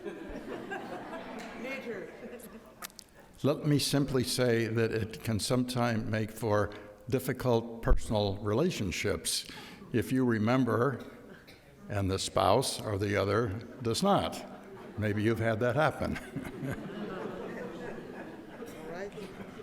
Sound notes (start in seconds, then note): 0.0 audience laughs; 16.9 audience laughs